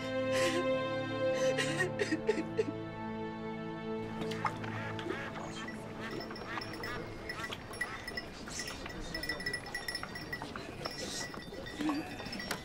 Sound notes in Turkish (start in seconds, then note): 0.3 Ağlama sesi; 5.5 Çan sesleri